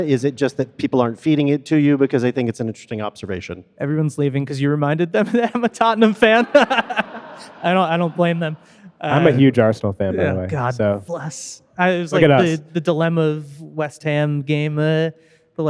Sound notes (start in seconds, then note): 7.0 audience laughing; 7.0 laughing